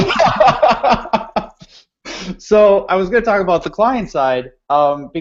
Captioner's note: laughing